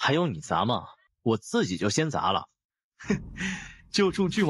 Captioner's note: huff